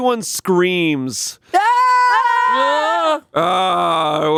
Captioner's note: all screaming